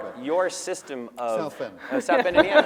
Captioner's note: laughter